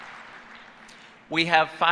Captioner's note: applause